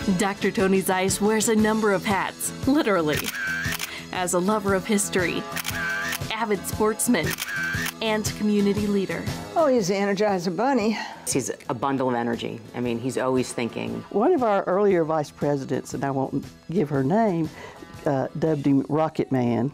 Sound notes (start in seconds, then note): 3.1 camera snapping